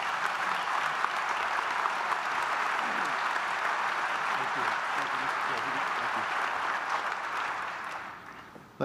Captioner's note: applause